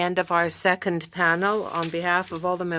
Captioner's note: speaking French